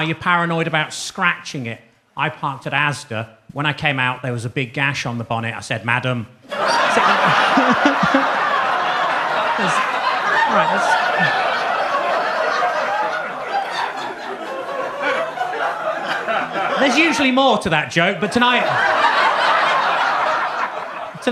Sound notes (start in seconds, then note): 6.3 laughs; 6.6 audience laughs; 18.0 audience laughs